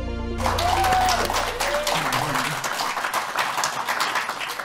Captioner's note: applause